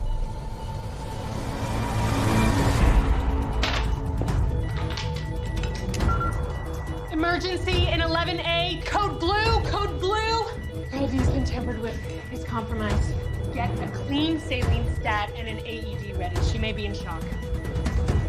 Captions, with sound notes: (alarm beeping) - Emergency in 11A, code blue, codode blue! Her IV's been tampered with, it's compromised. Get a clean saline, STAT, and an AED ready, she may be in shock.